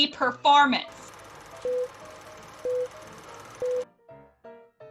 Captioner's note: whirring of film projector; beeps as numbers tick over